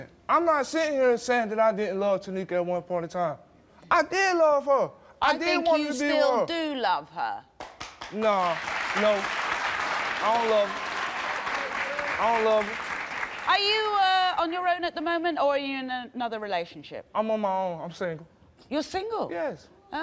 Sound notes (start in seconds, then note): 9.2 audience applauding